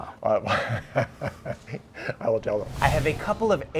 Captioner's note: laughing